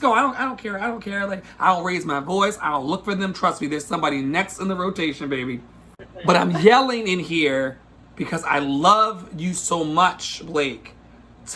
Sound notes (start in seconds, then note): 6.0 laughs